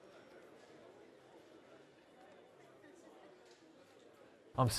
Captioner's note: group continues chattering